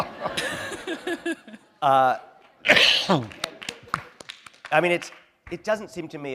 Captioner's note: laughter